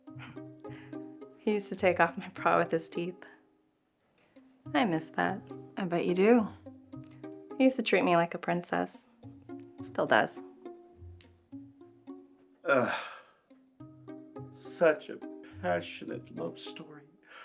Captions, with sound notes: He used to take off my bra with his teeth. I miss that. - I bet you do. - He used to treat me like a princess. Still does. (CJ sighs) - Such a passionate love story.